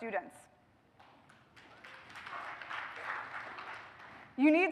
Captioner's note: applause